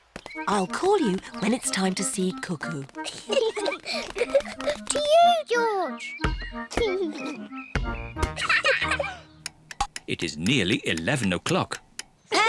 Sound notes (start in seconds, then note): 3.0 both laugh